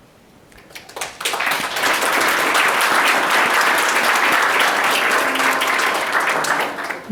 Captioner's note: audience clapping